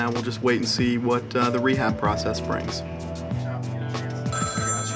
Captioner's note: phone rings